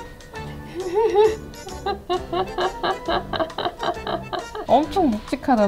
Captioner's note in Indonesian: tertawa